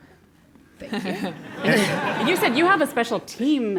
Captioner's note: laugh